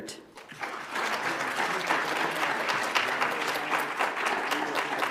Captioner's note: audience applauds